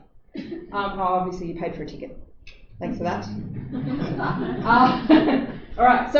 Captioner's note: laughter